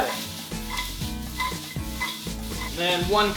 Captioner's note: sizzling